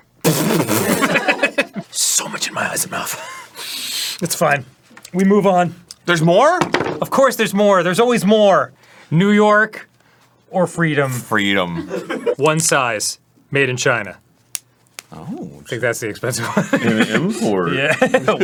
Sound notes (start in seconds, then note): 0.2 sputters; 3.5 centering breath